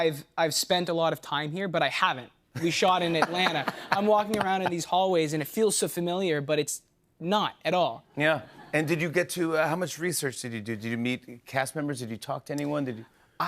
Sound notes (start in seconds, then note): 3.0 laughter